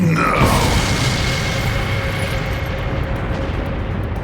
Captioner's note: ship explodes